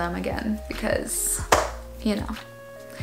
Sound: chair cracks

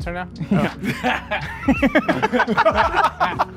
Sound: laughing

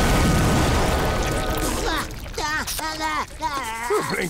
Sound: grunting

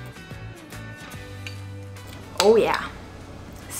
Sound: chewing

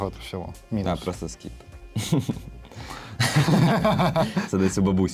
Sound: laughter

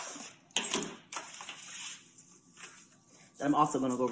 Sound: packages opening

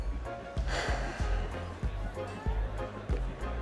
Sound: sighs

